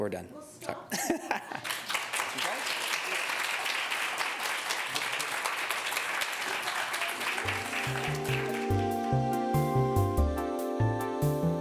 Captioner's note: applause